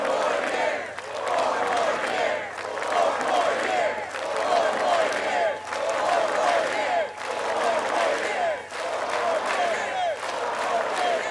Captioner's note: chanting "four more years"